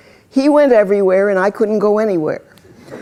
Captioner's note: laughter